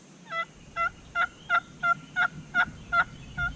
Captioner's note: turkey call